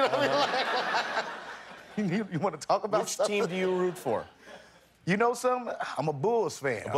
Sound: laughter

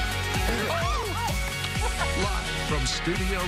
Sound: laughter

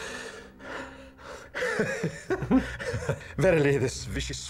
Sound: giggles

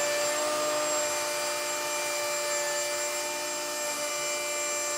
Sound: machine whirring

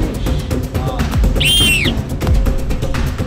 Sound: blows whistle

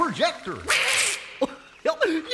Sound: distant Donald started quacking; distant Goofy chuckling

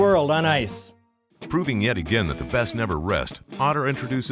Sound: voiceover

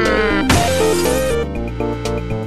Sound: glass breaking sound

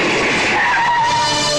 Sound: tire Screeching

